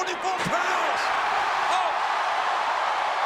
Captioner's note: audience cheering